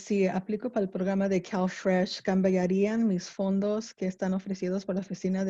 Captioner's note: spanish